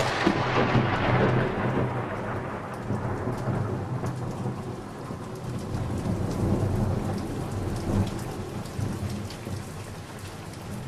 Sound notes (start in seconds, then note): 2.7 heavy rain